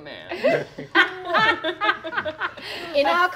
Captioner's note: laughing